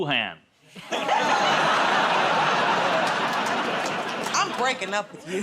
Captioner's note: laughter, groaning